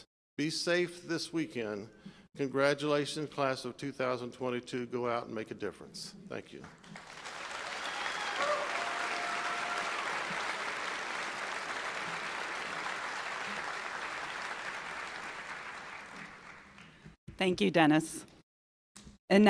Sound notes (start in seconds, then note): 6.8 applause